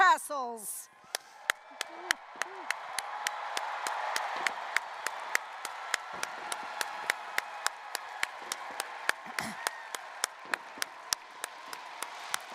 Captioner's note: applause, cheering